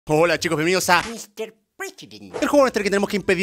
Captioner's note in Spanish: voz rara